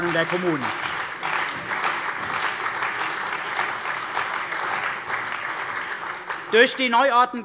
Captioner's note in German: Beifall bei der CDU und dem BÜNDNIS 90/DIE GRÜNEN